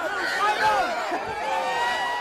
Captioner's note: crowd chatter